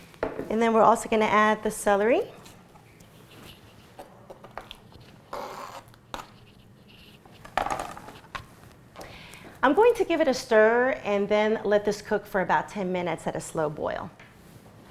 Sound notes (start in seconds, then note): 4.7 knife scraping